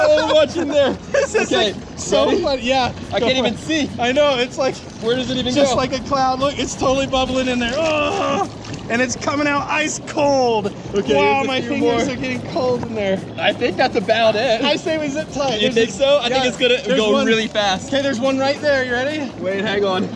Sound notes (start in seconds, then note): 0.0 laughs